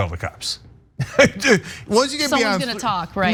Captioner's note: laugh